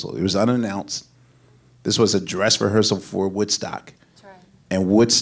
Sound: none

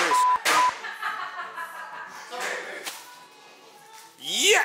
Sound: laughing

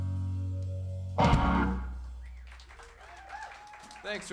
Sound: applause

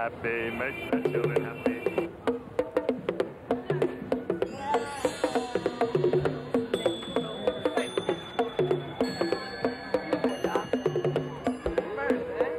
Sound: tings, chimes

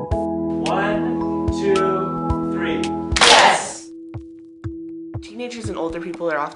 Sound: clap

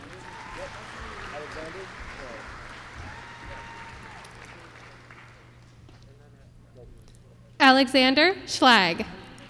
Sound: applause

